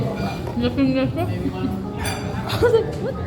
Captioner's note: laughs